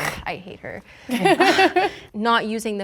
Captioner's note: laughing